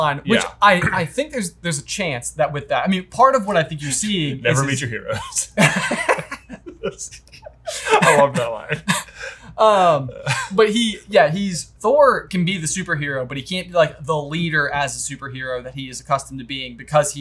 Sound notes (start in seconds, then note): 5.1 both laugh